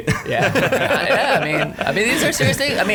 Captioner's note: laughing